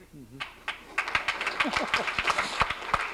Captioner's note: laughs; applause